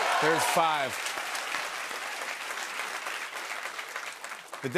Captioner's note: cheers and applause